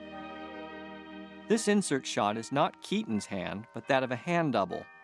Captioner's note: bells ringing